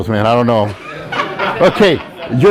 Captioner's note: students laughing